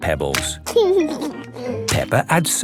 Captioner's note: laughing